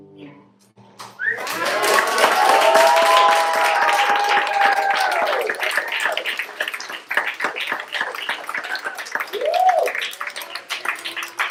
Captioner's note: applause